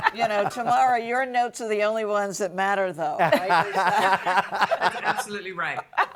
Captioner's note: everybody laughing